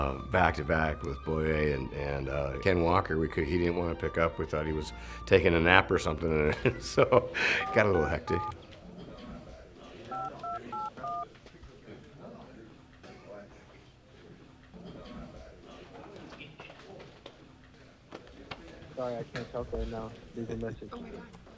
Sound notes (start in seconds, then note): 6.5 laughs; 7.5 phone dialing; 12.7 people chattering